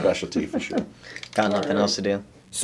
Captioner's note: laughs